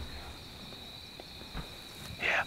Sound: whispering

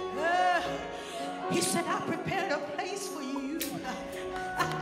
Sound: laughs

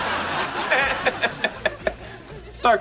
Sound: laughing

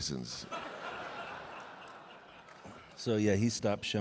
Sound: audience laughing

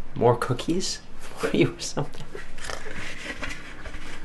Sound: scoffs

